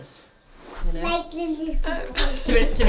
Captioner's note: babbles